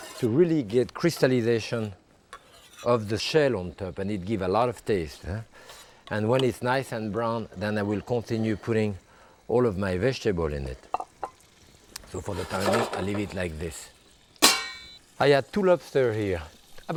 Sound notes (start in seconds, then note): 14.4 pan lid clanging